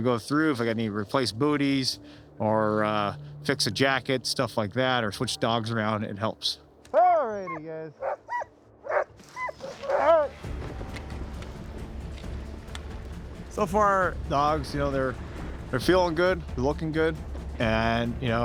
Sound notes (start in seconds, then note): 8.8 dogs barking